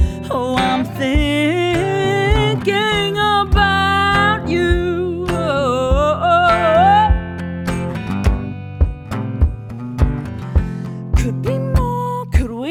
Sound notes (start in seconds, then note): 7.5 fingers strumming rhythmically